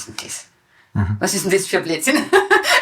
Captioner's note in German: lachend